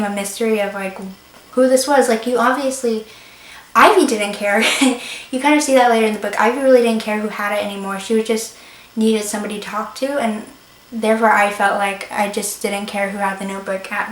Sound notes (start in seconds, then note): 4.5 laughs